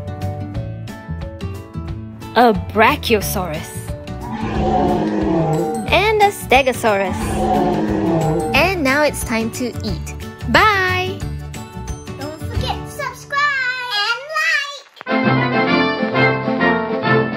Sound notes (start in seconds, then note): 4.2 dinosaur roars